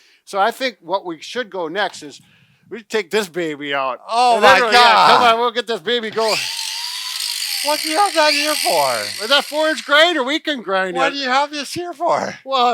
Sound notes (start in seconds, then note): 6.1 grinder whirring